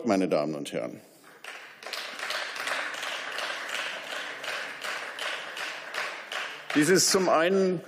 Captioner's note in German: Beifall